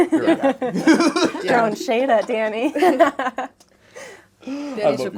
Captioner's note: laughter